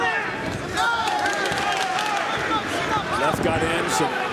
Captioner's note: applause